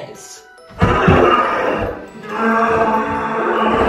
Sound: monster growls

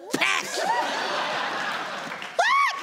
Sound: audience laughs

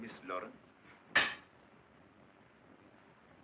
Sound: tool slamming down

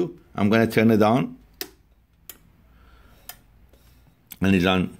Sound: switches clicking

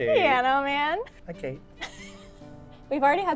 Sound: laughs

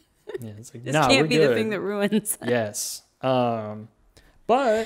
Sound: laughs

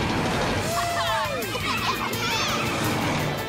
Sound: cheering

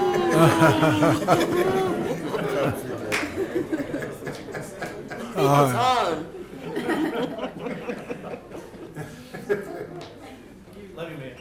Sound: applause

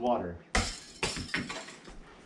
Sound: clattering

